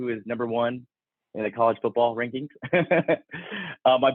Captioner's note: laughs